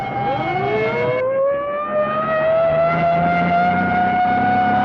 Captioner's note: police siren alarming